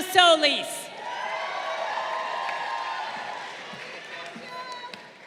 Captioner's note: crowd cheering